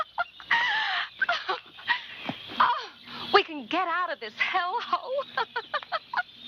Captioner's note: laughs; laughs